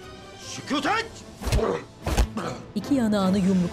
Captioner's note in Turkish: Darp sesleri